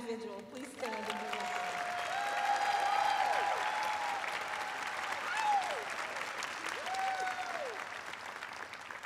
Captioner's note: cheers and applause